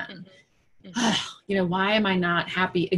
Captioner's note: exhales deeply